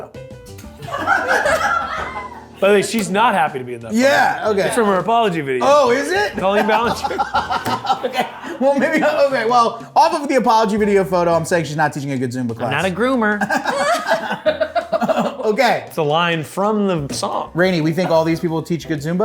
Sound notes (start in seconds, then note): 0.8 group laughs; 7.4 laughs; 13.2 laugh